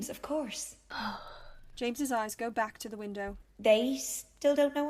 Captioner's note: James exhales